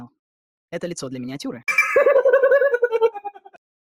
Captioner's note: laughs